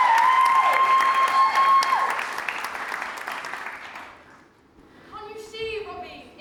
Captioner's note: audience cheers